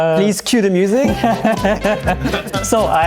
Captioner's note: laughing